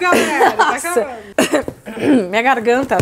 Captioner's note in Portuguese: pigarro